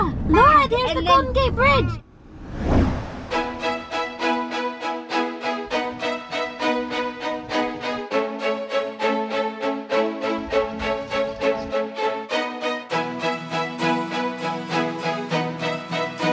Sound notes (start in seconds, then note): 2.1 swish; 3.5 classical music